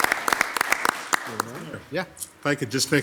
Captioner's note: overlapping chattering